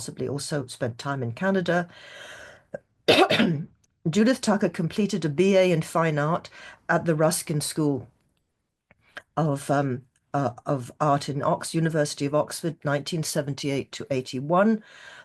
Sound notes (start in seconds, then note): 3.1 clears throat